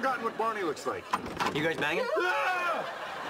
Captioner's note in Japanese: マーシャルとリリー 悲鳴